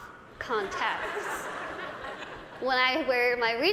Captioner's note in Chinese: 大笑